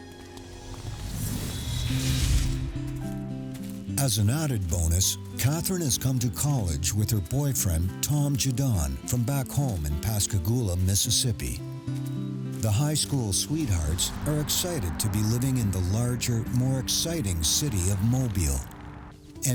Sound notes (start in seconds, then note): 2.3 footsteps crunching; 2.3 soft music